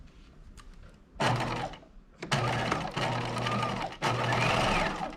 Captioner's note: sewing machine whirring